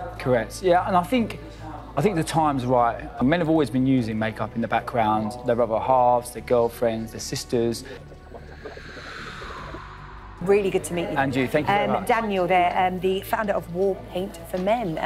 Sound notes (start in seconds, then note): 8.3 squeaking; 8.4 whoosh